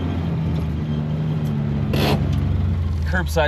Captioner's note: engine rumbling